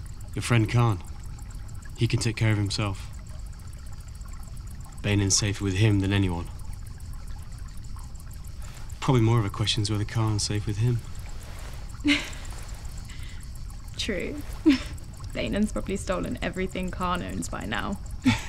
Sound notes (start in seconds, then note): 12.0 Ren laughs; 18.2 Hunter and Ren laugh